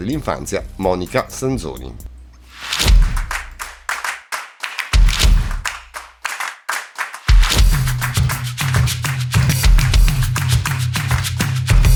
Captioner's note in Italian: Applauso